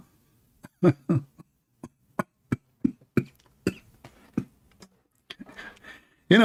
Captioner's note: Ketawa